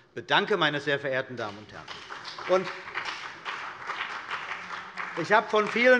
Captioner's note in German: Beifall bei der CDU und dem BÜNDNIS 90/DIE GRÜNEN